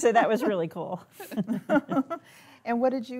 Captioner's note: all laughing